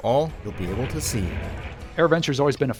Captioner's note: airplane soars